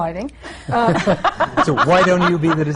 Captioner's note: laughter